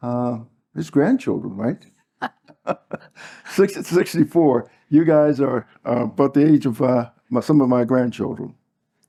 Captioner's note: laugh